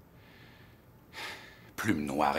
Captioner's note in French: soupirs